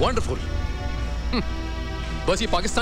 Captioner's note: Chuckles